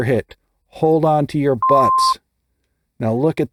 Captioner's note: beep